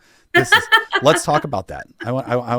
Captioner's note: laughs